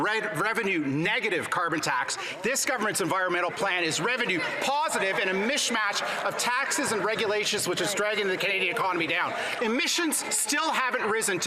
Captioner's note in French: voix de l'interprète